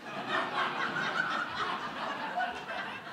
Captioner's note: laughter